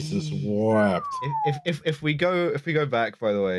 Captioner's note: amazed whistle